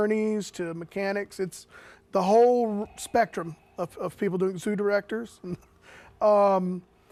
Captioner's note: chuckles